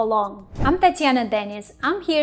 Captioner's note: air whooshes